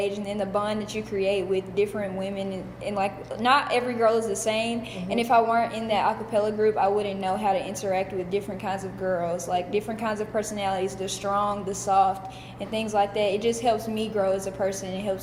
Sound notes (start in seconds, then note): none